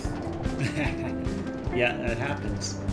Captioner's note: laughs